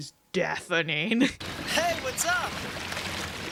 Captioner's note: water sloshing